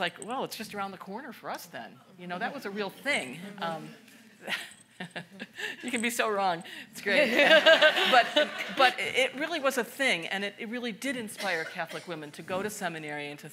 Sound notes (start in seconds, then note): 3.6 participant faintly speaking; 7.2 all laughing; 7.3 chuckles